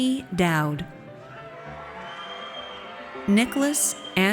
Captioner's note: audience cheers